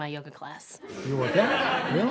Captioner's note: audience laughs